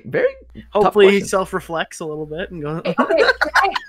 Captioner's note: laughs